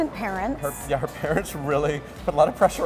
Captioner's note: laughs